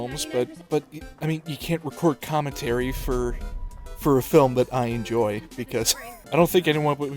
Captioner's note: wheeze